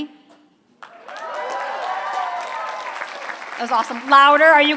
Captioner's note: applause